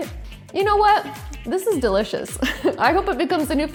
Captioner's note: laughs